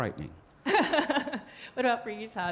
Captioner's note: laughing